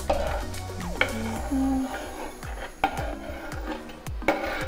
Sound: Paris hums

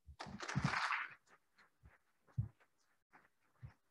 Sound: applauding

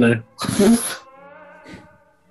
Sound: laughing

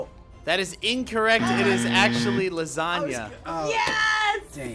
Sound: buzzer

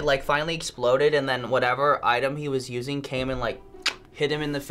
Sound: clicks tongue

